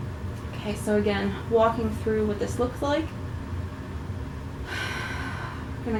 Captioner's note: breathes out